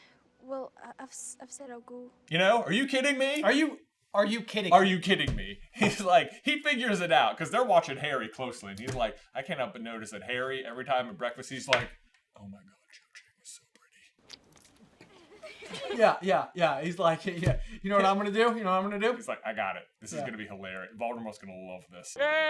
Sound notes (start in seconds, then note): 14.2 splurts; 15.0 girls giggling